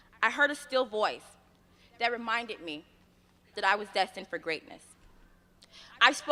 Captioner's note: none